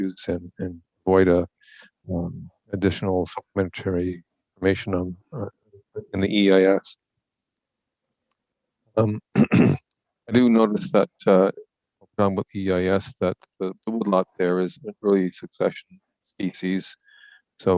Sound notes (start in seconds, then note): 9.0 clears throat